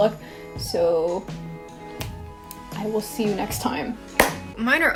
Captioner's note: snaps fingers; clap